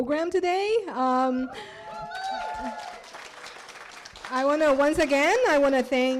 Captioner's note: cheers